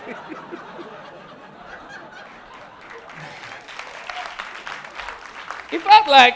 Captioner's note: audience laughing and clapping